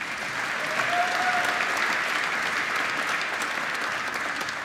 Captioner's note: applause